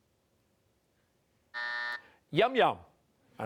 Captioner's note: buzzer